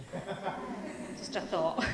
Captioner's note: laughing